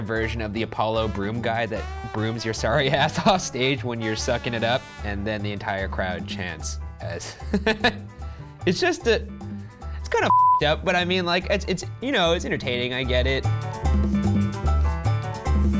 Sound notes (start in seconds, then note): 7.3 laughs; 14.0 mexican music